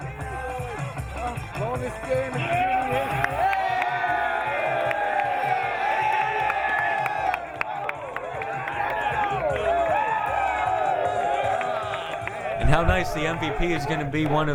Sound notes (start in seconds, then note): 3.4 cheering